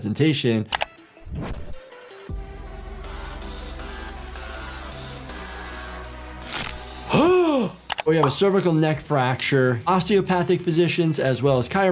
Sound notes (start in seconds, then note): 0.7 mouse clicking; 1.0 air whooshing; 1.0 upbeat music; 6.5 bones cracking; 6.7 doctor gasping